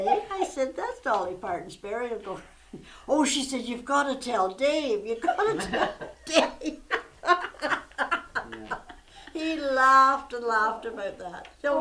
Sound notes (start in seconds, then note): 5.2 laughter